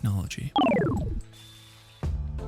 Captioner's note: technological beeps